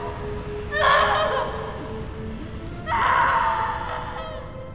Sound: anxious music; Veronica screaming

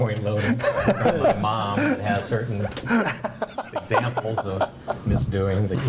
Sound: board members laugh

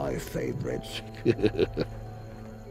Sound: chuckles

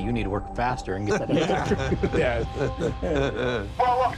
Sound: all laugh

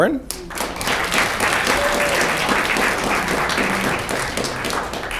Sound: audience clapping and cheering

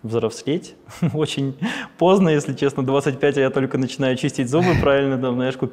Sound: laughs

